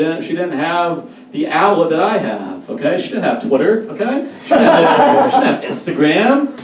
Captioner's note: audience Laughs